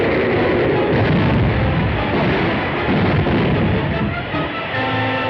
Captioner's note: train banging